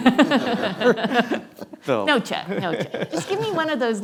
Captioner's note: laughs